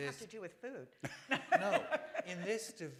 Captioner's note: laughter